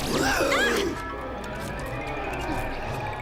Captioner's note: growls